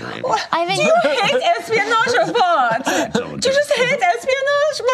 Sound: imitates German accent

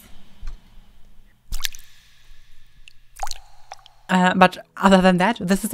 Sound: water splashing

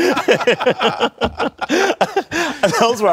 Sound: laughter

